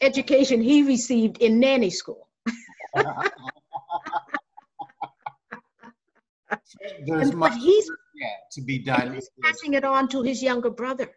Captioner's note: laughter